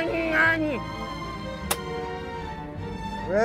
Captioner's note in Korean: 탁!